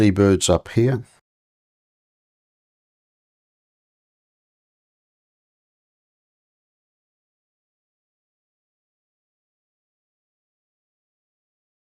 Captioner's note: silence